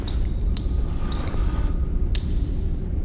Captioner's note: distant breathing